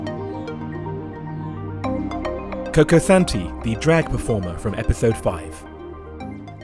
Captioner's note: voiceover